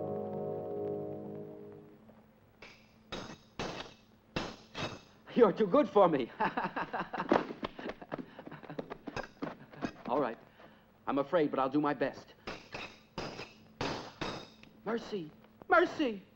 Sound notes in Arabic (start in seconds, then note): 2.4 صوت السيوف; 6.5 يضحك; 12.4 صوت السيوف